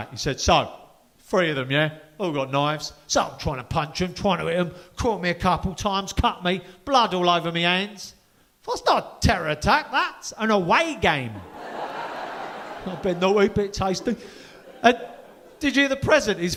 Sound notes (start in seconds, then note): 11.4 audience laughing